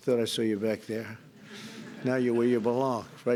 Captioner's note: laughter